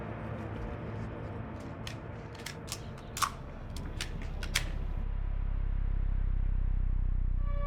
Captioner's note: gun cocking